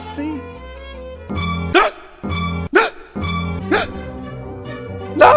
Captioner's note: gasps